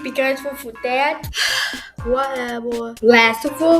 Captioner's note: sighs